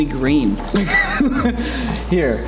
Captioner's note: frustrated laugh